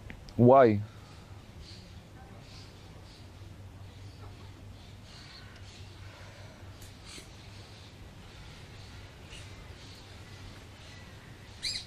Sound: pauses 12 seconds

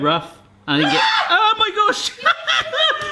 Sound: screaming; laughing

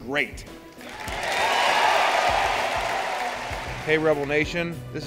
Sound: cheering

